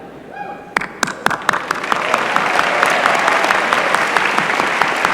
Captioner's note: applause